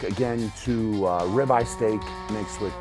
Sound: cow mooing

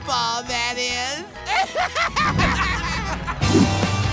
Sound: laughing

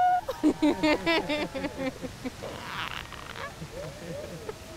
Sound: cheering from afar, laughs

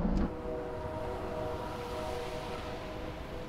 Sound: distant train whistle bellows

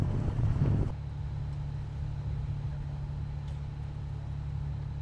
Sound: engine machine rumbling

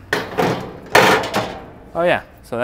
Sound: grill rattling

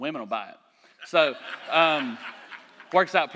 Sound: laughter

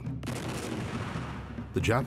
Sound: gun booms

